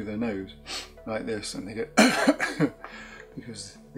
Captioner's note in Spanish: tosiendo